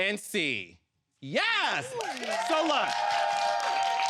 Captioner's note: audience applauding